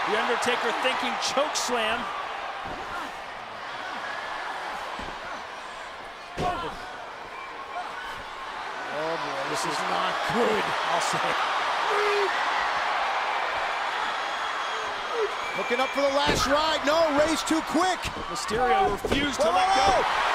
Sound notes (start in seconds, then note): 2.4 crowd cheering; 6.3 Undertaker stomping; 12.6 crowd cheering